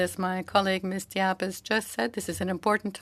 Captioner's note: speaking French